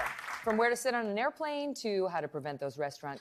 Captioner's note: applause